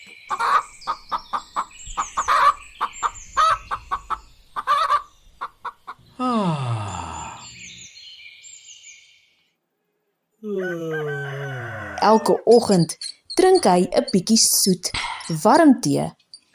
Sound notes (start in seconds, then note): 0.2 rooster cackling; 6.2 house mouse yawning; 10.4 house mouse yawning